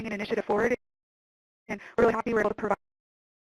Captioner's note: audio cuts out